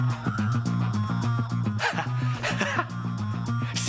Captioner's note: laughing